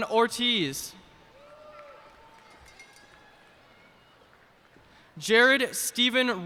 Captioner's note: cheers and applause